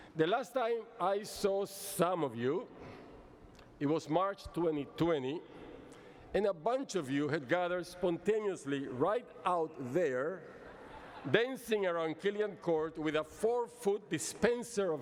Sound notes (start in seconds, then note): 10.4 laughter